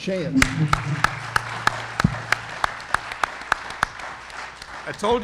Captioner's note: audience applauding